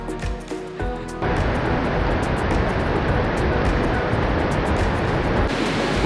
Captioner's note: river rumbling in the distance